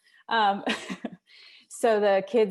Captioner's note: laughs